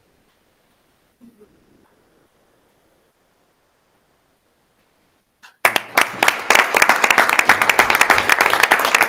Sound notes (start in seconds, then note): 0.8 speaking faintly off mic; 5.6 audience applauding